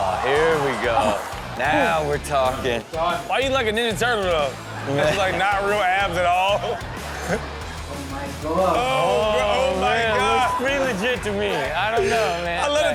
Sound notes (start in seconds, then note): 10.0 beep